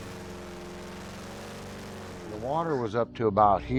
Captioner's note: music fades; motor revving